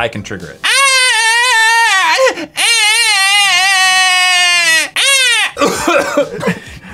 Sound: old man wailing sounds; coughing

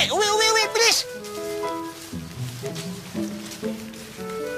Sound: footsteps leaving

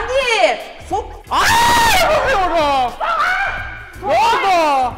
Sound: screams

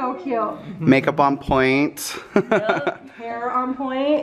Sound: laughs

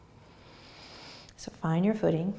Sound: inhaling

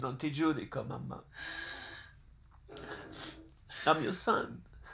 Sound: speaks foreign language

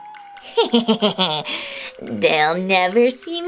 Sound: Romeo chuckling

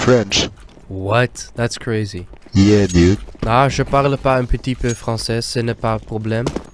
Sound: French

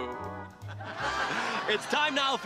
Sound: laughing

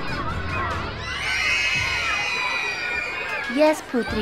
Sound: children screaming

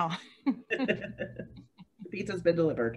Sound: laughing

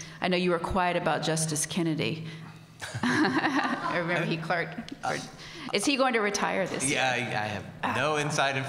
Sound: laughs

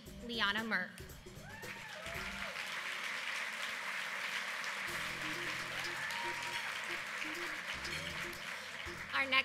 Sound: applause

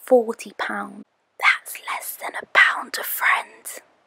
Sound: whispers

